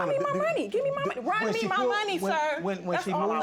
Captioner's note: stuttering